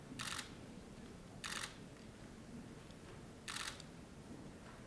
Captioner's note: camera shutter clicking